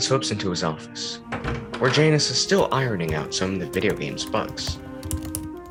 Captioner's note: door opens